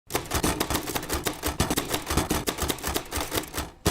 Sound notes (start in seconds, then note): 0.1 typewriter clicking